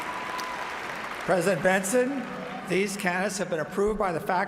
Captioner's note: cheers and applause